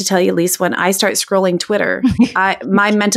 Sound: laughing

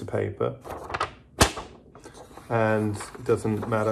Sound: paper snapping

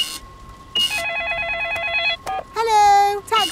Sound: beeps; cash register beeping; cellphone ringing

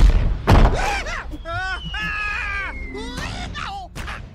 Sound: screaming; grunts of pain

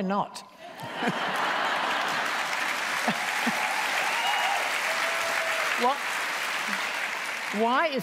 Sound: laughter and Applause

